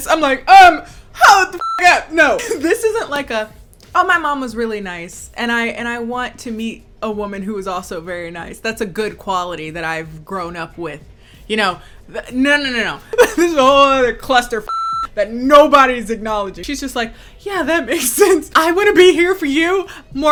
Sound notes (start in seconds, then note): 1.6 beep; 12.7 chuckling; 14.6 beep